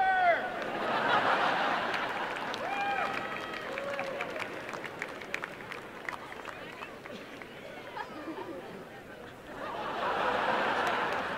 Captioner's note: applause and laughter